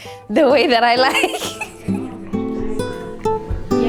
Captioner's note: laughs